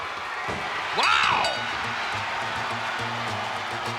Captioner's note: bell rings